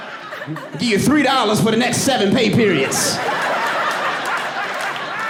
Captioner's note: audience laughing